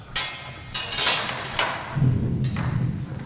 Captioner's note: clattering and grinding